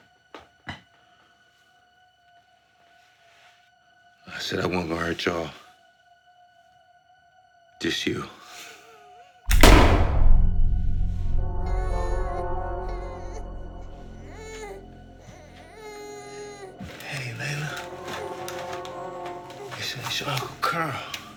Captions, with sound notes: I said I wasn’t gone hurt y'all. Just you. [gun shot] (baby crying) Hey, hey, Layla. Listen its your uncle Karl